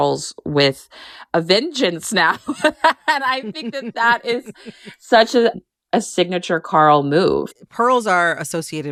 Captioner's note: laughter